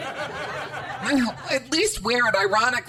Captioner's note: audience laughter